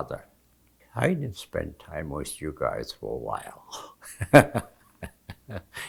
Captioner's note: laughing